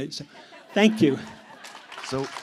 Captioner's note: applause